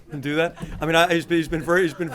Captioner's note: laughter